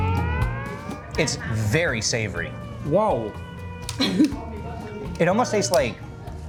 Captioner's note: laughing